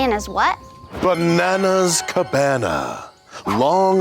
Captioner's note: sparkling chimes